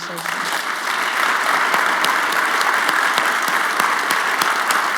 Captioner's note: audience applauding